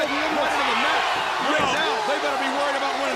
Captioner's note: crowd chatter